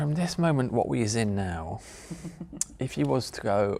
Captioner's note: laughs